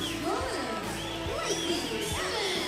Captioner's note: crowd cheering